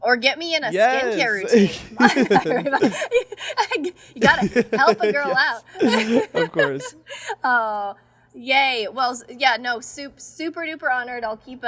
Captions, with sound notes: - Or get me in a skincare routine. - Yes. (laugh) - You gotta help a girl out. - Of course. - Oh, yay. Well, yeah, no, super, super duper honored.